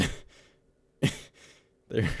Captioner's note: snort